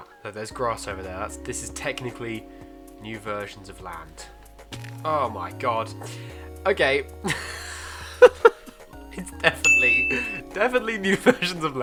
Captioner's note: awkward laugh